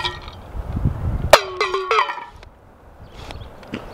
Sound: clang

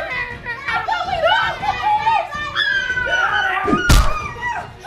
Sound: family screaming and roaring

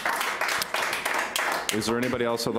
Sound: applauding

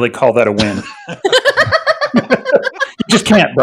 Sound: all laughing

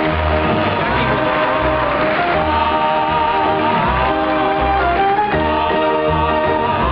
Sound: audience applauds; band begins playing

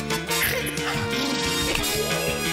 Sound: blubbers lips; snorts; gasps

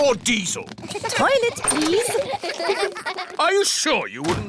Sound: kids giggling

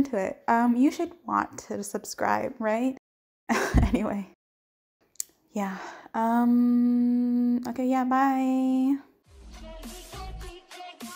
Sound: nervous laugh

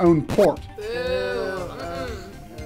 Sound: people booing

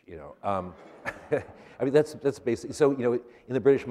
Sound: laughter

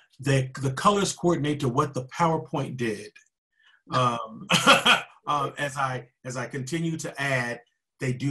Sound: chuckling

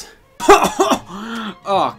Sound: coughing

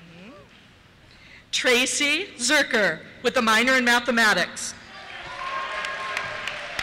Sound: cheers

